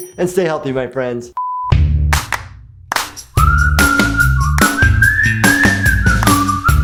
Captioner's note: beeping; upbeat music